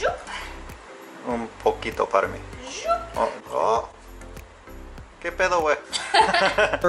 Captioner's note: speaking in foreign language